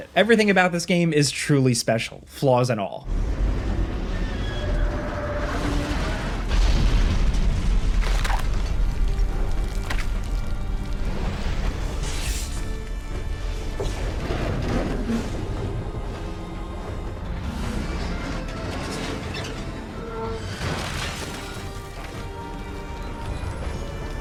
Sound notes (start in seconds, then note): 3.2 metal creaking; 4.9 thunder crashing; 6.7 debris crashing; 8.0 tense dramatic music; 13.9 thunder crashing; 20.8 billboard crunching